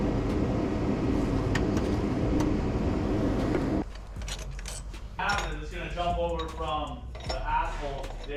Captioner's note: engine revving